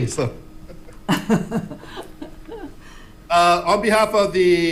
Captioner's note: laughing